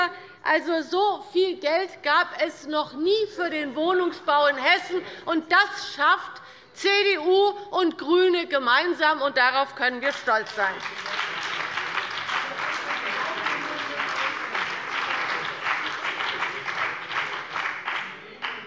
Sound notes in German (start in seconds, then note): 10.1 Beifall bei der CDU und dem BÜNDNIS 90/DIE GRÜNEN